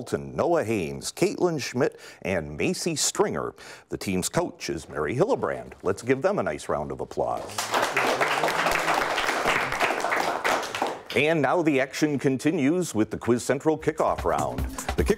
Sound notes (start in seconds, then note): 7.4 applause